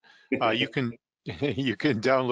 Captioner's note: laughter